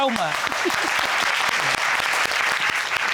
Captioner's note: audience applauding